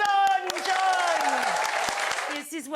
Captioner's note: audience cheers